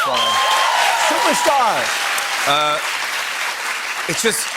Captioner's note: cheers and applause